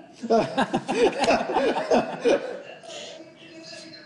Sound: group laughing

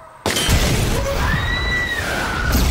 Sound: bang-BOOM; terror screams; explosions

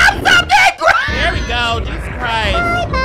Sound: laughs

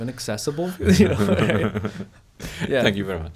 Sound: both laughing

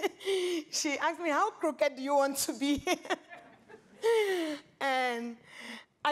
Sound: laughs

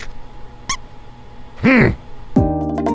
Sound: indifferent hum; squeak; relaxing music

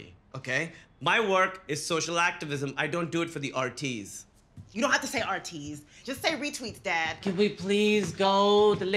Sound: none

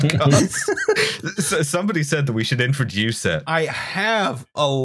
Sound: laughter

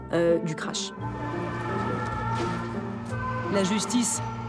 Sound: sirens

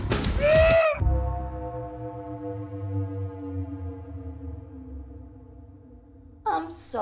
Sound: screams

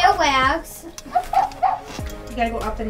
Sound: Rollie barks

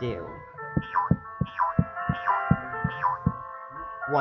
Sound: hopping four times

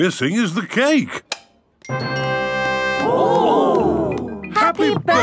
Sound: click

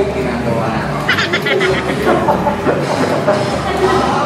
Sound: laughs

